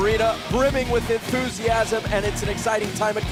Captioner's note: crowd cheering